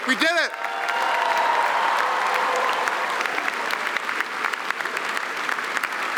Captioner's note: applause; cheering